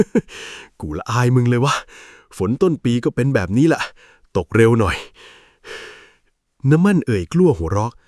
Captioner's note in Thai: เสียงหัวเราะ; เสียงหายใจอ้าปากค้าง